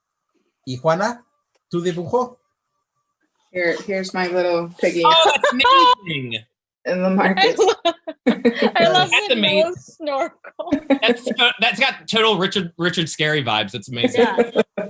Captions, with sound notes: - Juana (speaking in foreign language). Here's my little piggy. - Oh, that's amazing. - (laughs) I love the nose. - That's got total Richard Scary vibes. It's amazing.